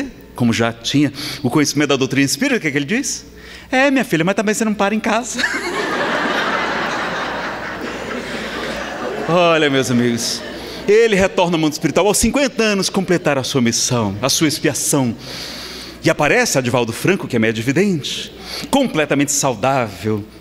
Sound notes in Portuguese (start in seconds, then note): 5.3 Gargalhadas